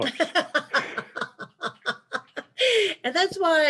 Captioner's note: laughing